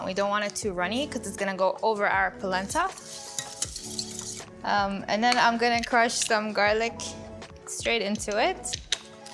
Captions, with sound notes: We don't want it too runny 'cause it's gonna go over our polenta. (whisk clinking) And then I'm gonna crush some garlic straight into it.